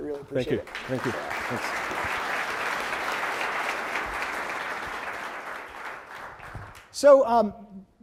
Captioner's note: applause